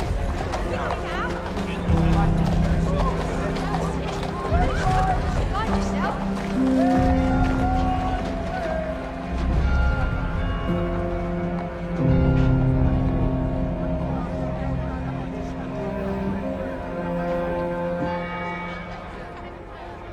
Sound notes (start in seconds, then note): 15.0 church bells ringing